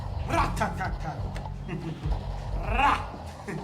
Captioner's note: Tyrone laughing